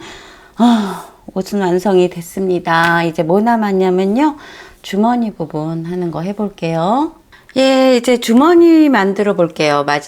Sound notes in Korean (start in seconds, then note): 0.0 한숨